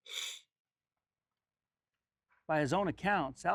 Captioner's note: sniffling